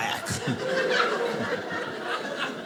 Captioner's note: audience laughing